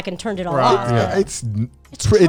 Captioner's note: guys humming in agreement